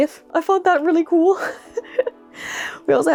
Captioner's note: laugh